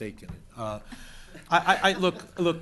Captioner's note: laughter